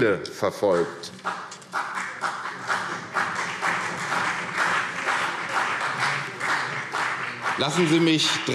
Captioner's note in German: Beifall CDU und vereinzelt BÜNDNIS 90/DIE GRÜNEN